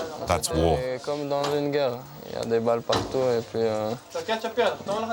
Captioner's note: French spoken audio